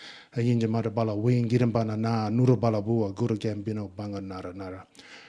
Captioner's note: speaking in Ngunnawal